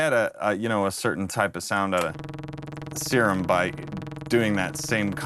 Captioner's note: bumpy tone